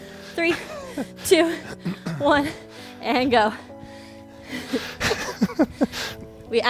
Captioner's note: laughs